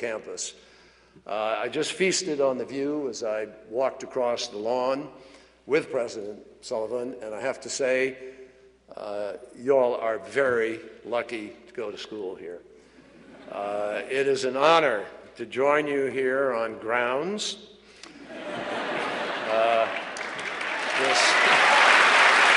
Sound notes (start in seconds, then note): 13.1 laughter; 18.1 laughter and applause